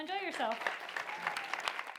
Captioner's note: clapping